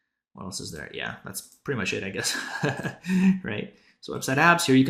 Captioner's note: chuckles